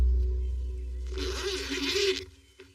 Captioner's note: zipper zipppping